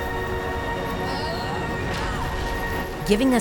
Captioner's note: grunting